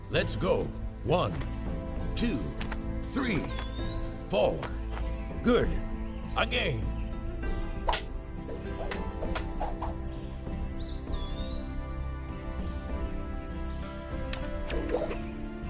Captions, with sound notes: - Let's go, one, two, three, four. Good. Again! (gentle music) (weapons clashing)